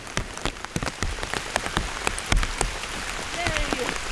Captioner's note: rain; proper rain